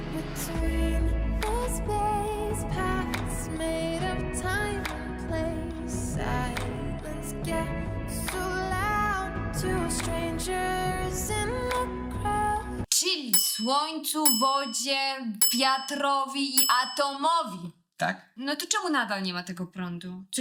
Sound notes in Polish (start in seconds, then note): 15.4 dzwonek